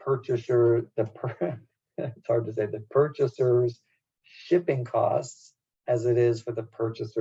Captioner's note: laugh